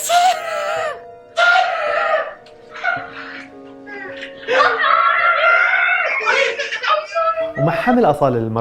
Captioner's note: laughing